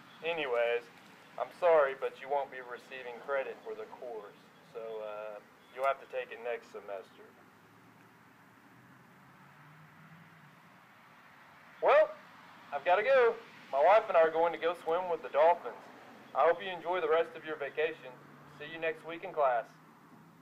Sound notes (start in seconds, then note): 7.7 painful silence; 11.7 phone voice